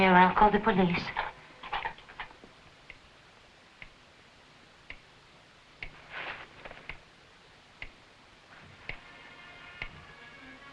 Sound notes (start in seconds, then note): 2.3 clock ticking